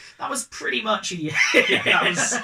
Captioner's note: laugh